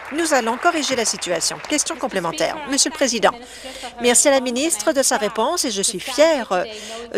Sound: applause

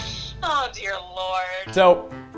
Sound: over Phone

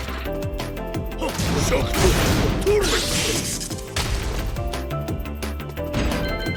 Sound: power crash

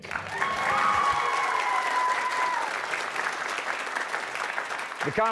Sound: cheers and applause

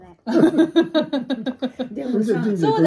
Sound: laughing

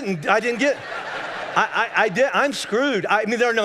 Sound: congregation laughing

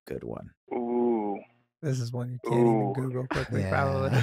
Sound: speaking faintly

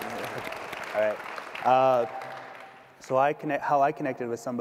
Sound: audience clapping

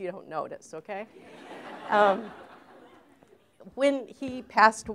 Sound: laughter

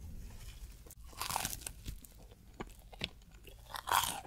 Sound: eating sound

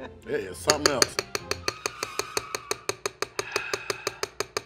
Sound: man tapping spoon

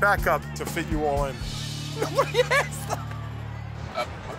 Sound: laughter

